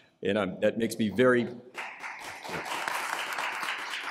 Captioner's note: applause